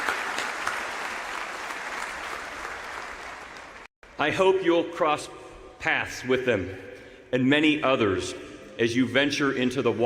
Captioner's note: applause